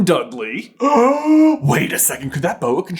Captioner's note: gasp!